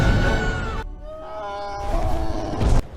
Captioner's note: ember lumen screaming; toothless yelling